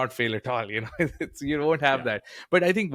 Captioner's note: chuckles